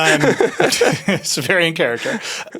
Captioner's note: everyone laughs